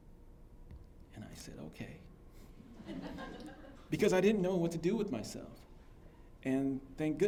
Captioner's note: laughter